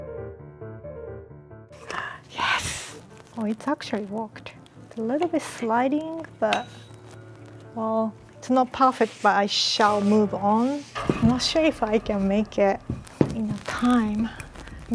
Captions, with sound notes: (gasping) Yes. Oh, it's actually worked. A little bit sliding, but well it's not perfect, but I shall move on. I'm not sure if I can make it in time.